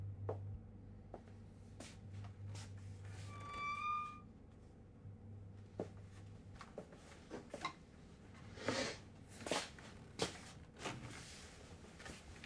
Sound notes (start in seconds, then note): 0.1 footsteps approach; 3.4 hinge creaks